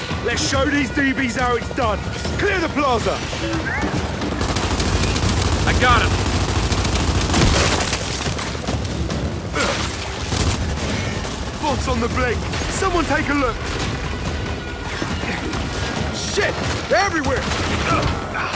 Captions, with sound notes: Let's show these TV's how it's done. Clear the plaza. [gunshots] I got him. Thoughts on the blade. Someone take a look. Shit! Everywhere!